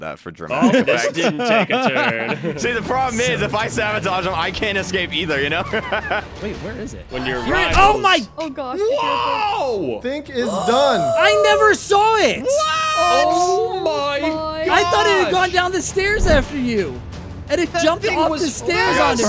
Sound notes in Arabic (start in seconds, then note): 5.5 يضحك; 10.4 شهقات